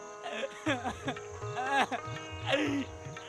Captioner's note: sobbing, crying